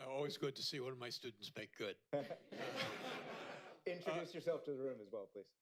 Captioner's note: laughter